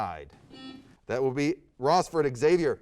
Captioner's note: buzzer sounds